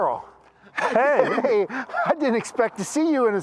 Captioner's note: Henry laughs